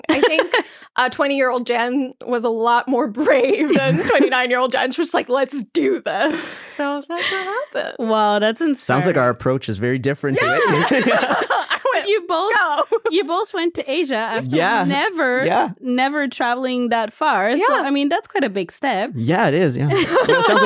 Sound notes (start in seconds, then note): 0.0 laughing; 10.2 all laughing